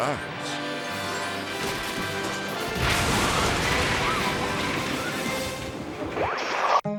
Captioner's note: bold dramatic music; metal crashing